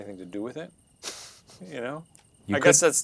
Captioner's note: chuckles